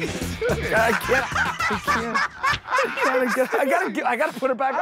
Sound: laughter

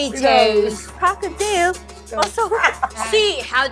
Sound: laughs

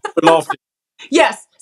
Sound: laugh

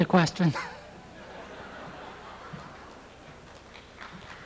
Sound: audience laughs; audience members applaud

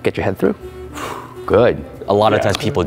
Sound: loud exhaling

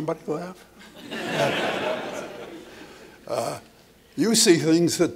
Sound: laughter

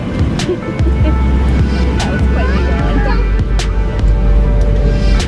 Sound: laughing

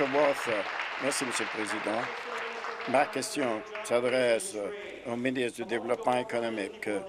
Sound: applause

